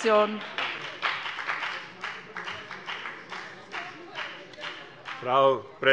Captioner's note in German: Beifall bei der FDP